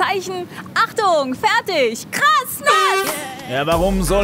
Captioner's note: Startsignal